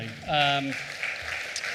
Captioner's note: applause